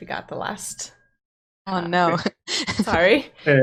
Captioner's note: laughing